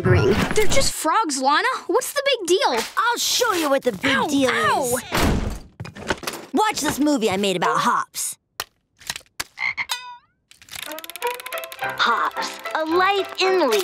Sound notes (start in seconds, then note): 9.5 ribbiting